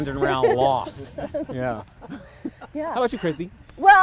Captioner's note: laughs